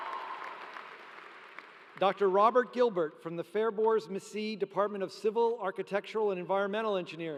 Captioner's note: applause